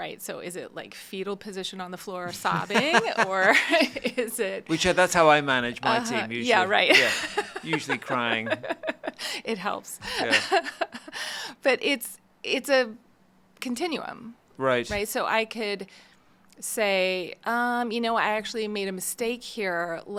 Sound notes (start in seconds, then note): 2.3 laughing; 8.9 laughing